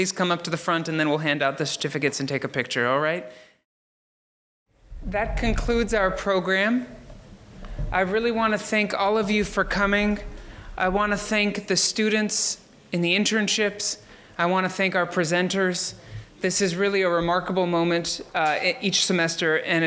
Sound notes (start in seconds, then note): none